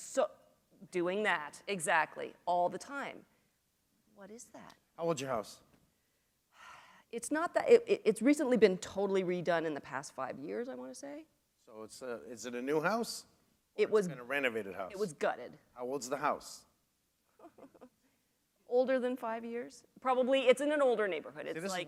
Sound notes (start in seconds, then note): 17.3 chuckle